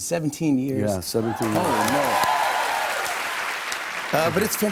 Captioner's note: cheers and applause